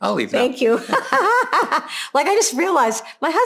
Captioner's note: laughs